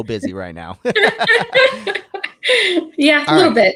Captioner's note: laughing